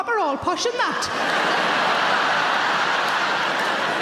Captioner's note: laughing